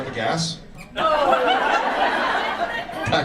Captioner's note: audience laughs